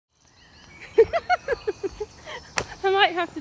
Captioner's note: laughter